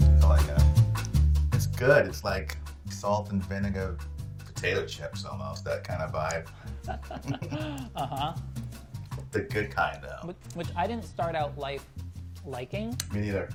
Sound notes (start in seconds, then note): 6.6 both laughing